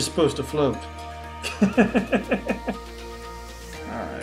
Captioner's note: laughs